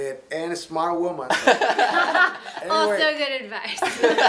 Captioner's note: laughing; laughs